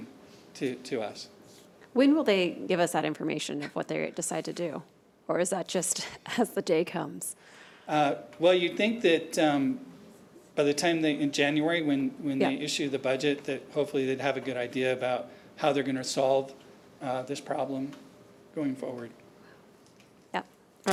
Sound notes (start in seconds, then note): none